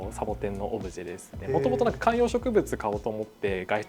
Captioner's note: laughs